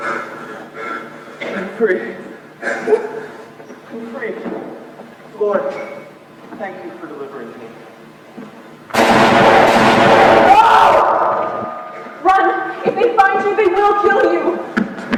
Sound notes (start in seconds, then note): 0.0 opa heavy breathing; 2.6 laughs; 8.9 two gunshots